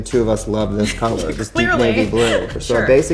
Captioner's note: laughs